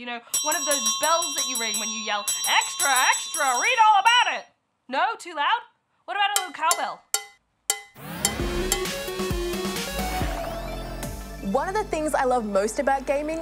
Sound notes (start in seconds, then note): 0.3 bell rings; 7.7 cowbell clanks